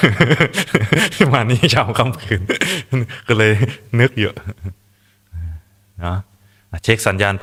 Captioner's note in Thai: เสียงหัวเราะ; เสียงหัวเราะ